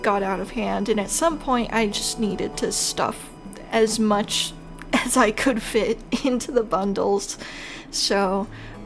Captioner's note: laughing